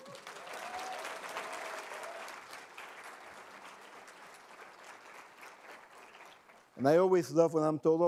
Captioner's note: cheers and applause